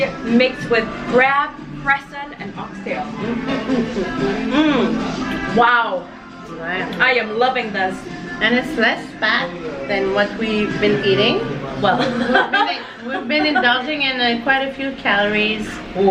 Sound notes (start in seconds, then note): 11.9 laughs